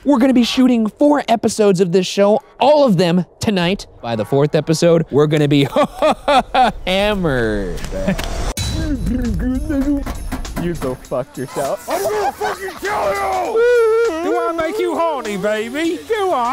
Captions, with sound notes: - We're gonna be shooting four episodes of this show, all of them tonight. By the fourth episode, we're gonna be ha-ha-ha-ha hammered. You go fuck yourself. (hysterical laughing) - I'm going to fucking kill you! (yells) Do I make you horny, baby? Do I?